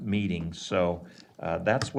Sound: none

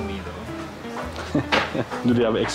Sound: chuckles

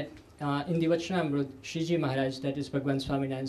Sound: sanskrit

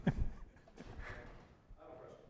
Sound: chuckles

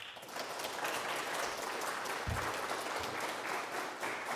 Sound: audience applauding

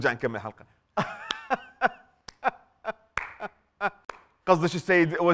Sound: fake clapping and laughing

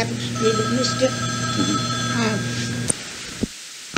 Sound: telephone rings

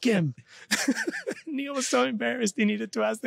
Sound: laughs

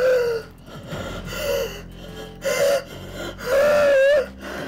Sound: woman pants

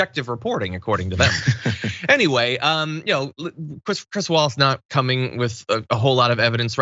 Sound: laugh

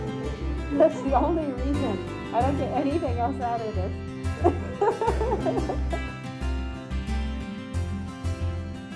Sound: laughs

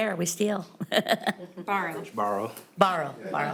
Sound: people laughing

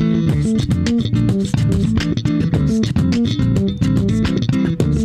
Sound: beat boxing

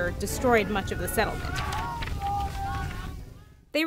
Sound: screams

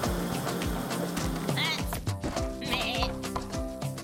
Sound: bleating

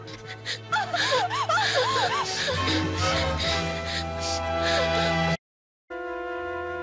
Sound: cries

